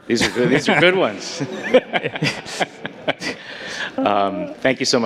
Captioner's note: audience laughing